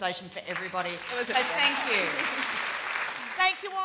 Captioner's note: applause